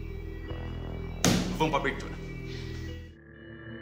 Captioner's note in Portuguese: tapa na mesa